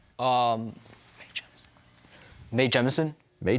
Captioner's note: whispering